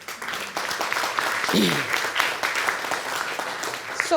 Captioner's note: applause; clears throat